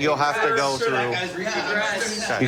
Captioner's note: arguing